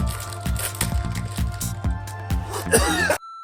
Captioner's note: sniffs and coughs